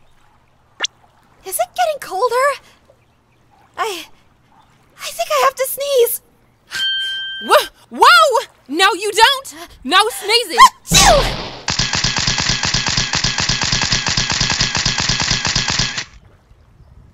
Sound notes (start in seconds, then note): 10.8 sneezing loudly